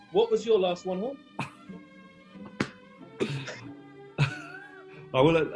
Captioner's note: chuckling